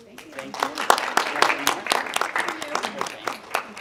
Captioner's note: audience clapping